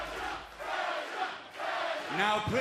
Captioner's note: fans chanting